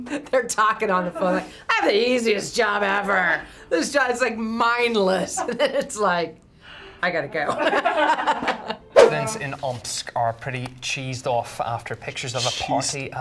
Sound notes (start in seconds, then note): 5.4 laughs; 7.4 laugh